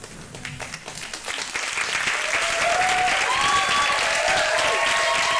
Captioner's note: audience clapping and cheering